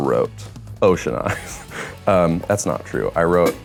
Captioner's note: laughs